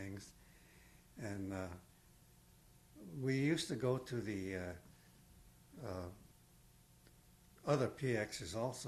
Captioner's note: pauses for 3 seconds